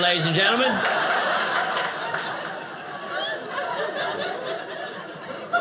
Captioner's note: audience laughing